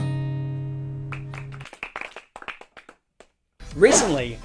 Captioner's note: guitar music; applause